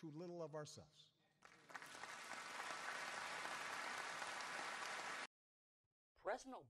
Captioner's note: applause